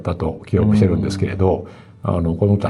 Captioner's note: laughs